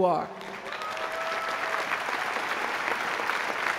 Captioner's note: applause